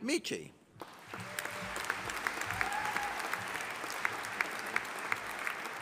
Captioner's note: audience applauding